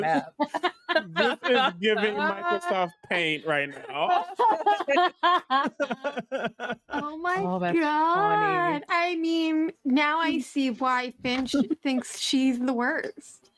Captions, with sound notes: this is giving Microsoft Paint right now. (players laughing) - Oh my God. - That's funny. - I mean now I see why Finch thinks she's the worst.